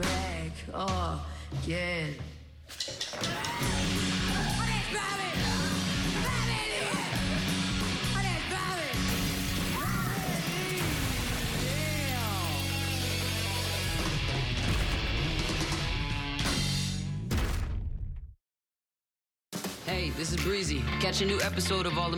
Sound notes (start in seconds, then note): 3.2 screams; 7.9 screams; 9.0 glass shatters